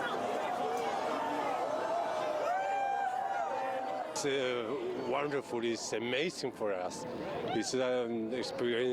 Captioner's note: cheers